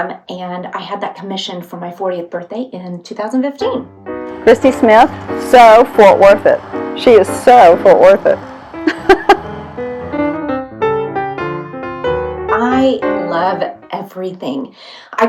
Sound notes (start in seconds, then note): 8.8 lady chuckles; 10.4 jazzy music